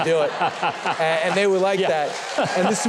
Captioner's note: laughing